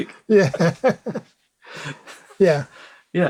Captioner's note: laughs